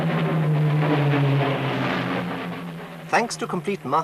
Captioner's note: plane engines roaring